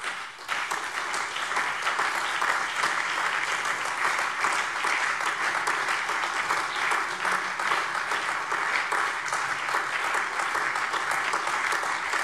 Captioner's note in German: Anhaltender Beifall